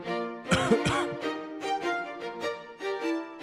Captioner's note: coughing